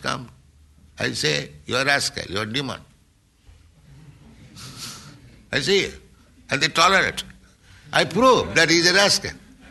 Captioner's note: laughter